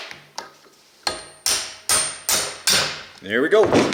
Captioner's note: hammering